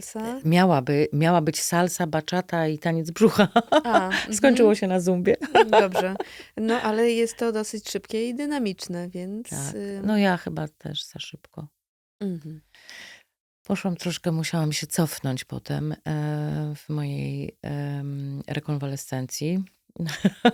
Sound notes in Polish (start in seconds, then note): 5.4 śmiech; 20.0 śmiech